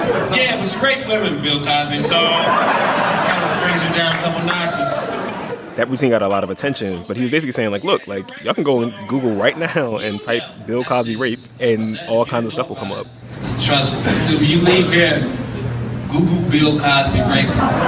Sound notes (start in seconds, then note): 13.0 soundbite of archived recording